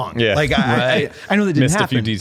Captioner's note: laughs